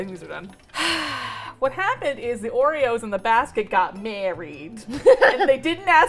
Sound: sighs heavily; laughing

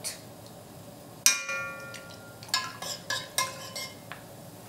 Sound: clanking

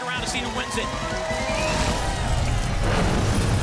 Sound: audience applause

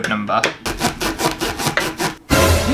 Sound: sawing Sounds

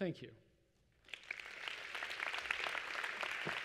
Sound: applause

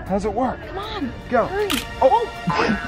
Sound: camera clicks

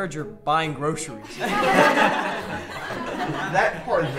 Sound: class laughs

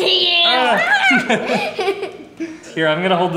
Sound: laughter

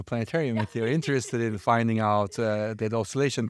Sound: laughing

